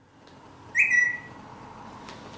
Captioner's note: phone notification